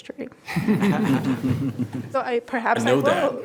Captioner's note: all laugh